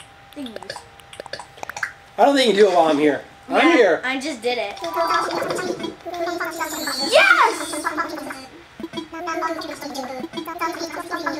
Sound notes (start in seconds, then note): 0.4 button noises; 4.8 Animalese murmuring